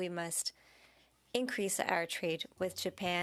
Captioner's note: speaking French